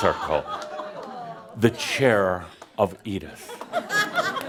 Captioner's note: laughter